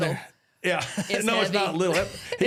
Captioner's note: laughs